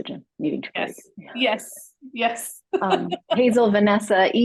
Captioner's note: laugh